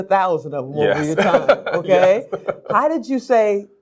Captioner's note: laughs